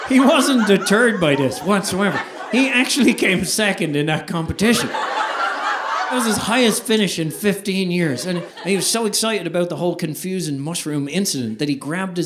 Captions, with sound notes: He wasn't deterred by this whatsoever. He actually came second in that competition. (audience laughing) It was his highest finish in 15 years. And he was so excited about the whole confusion mushroom incident that he grabbed